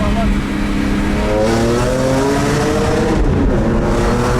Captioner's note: loud engine rev